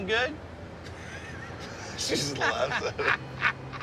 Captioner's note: laughs